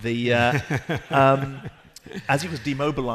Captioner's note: laughing